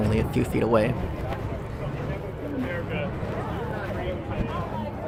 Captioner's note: crowd chatter